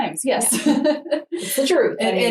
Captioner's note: laughing